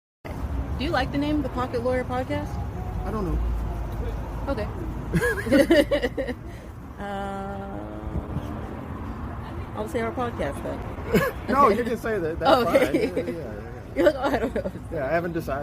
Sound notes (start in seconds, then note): 10.0 laughter